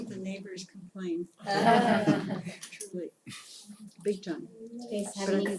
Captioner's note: laugh